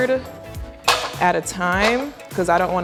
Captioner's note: brussels sprouts clattering